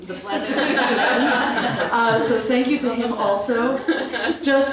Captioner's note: laugh